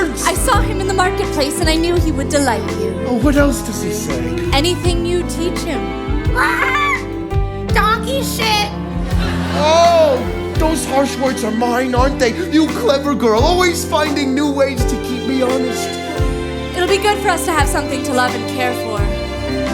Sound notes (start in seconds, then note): 6.6 squawk